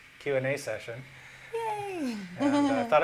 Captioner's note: laughter